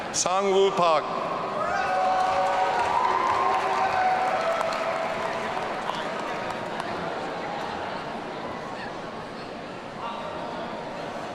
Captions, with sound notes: Sangwoo Pak. (audience cheering)